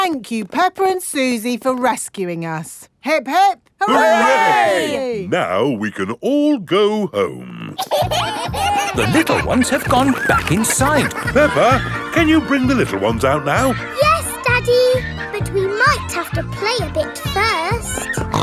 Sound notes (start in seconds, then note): 8.3 kids giggling